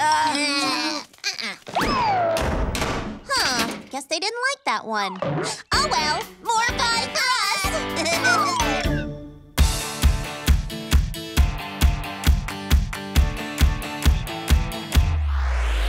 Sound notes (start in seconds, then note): 7.9 giggling